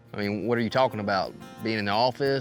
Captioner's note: none